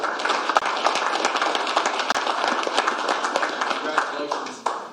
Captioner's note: applause